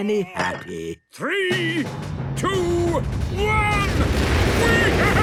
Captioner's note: rockets igniting